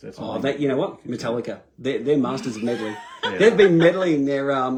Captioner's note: laughter